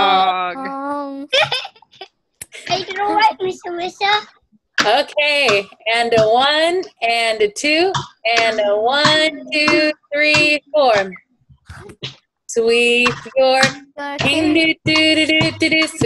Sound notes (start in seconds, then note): 1.3 laughter